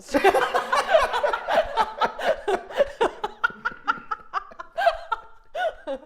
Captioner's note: Safiya and Tyler laughing loudly